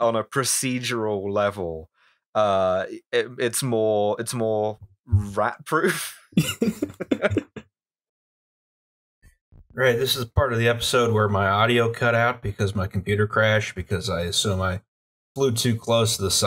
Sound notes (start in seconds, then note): 6.3 laughter